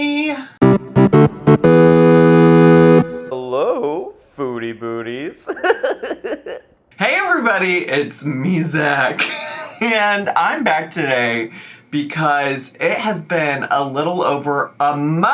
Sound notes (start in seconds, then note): 0.6 bright music; 5.4 giggles